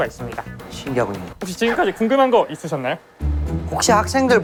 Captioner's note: off-key tone